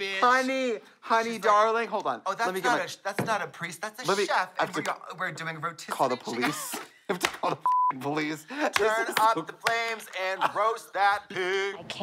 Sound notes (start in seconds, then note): 7.6 beep